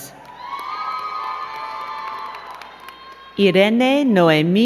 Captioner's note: crowd cheering and clapping